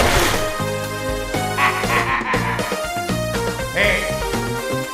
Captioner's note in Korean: 핫 하하하하